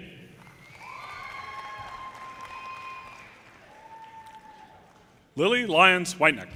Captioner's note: audience cheers and applause